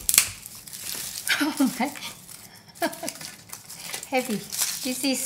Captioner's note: laughing